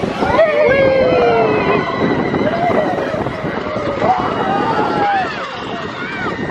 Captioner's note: riders cheering and screaming